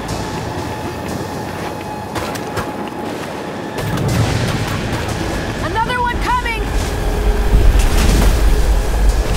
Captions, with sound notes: [GUNSHOTS] Another one coming!